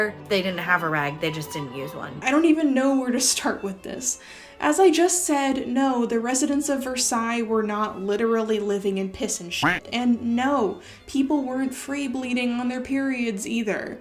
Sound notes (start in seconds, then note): 9.6 quack sound